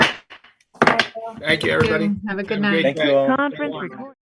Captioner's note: gavel bangs